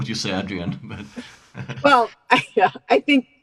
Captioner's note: chuckling